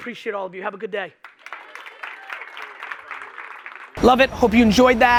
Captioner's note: audience applauding